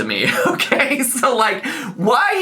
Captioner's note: laughs